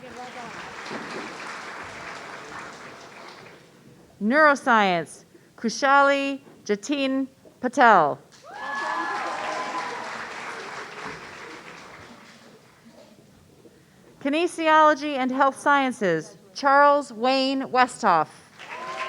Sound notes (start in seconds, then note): 0.0 audience applauding; 8.4 audience cheering